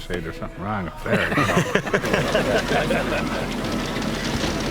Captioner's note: laughing